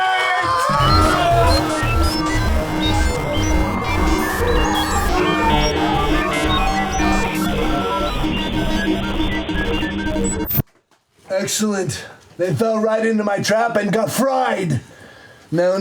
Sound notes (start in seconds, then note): 0.6 digital bleeping; 0.6 dial up tones